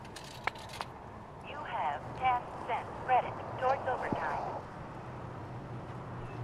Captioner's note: automated voice